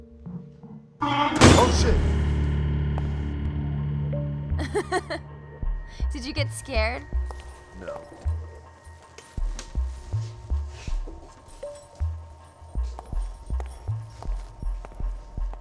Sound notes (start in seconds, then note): 1.0 doors slam abruptly